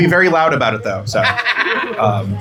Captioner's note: laughter